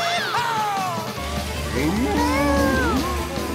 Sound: mooing

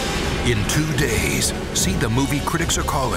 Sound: voiceover

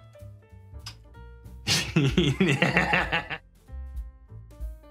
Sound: chuckles

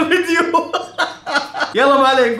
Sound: laughing

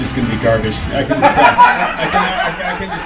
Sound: crowd laughing

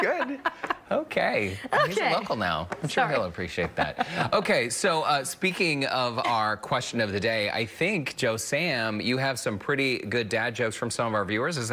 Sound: laughter

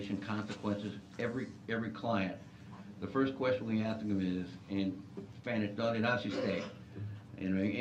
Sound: non-english

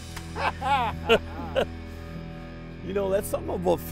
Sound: laughing

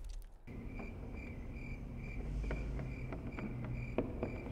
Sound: crickets

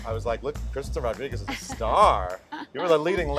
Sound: laughs

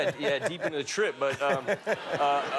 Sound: laughter

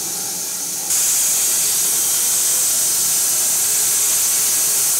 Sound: saw whirring continues

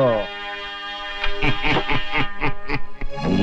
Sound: laughing

